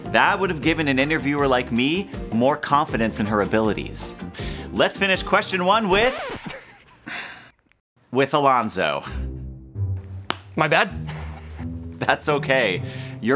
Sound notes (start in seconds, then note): 5.9 record scratch; 6.2 laughing; 7.1 sighs